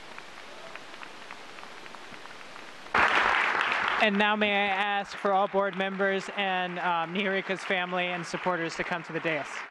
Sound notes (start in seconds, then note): 2.9 applause